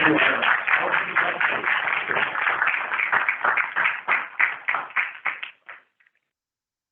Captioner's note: applause